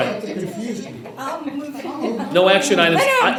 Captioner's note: members chatting